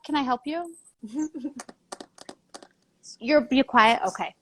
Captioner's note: laughs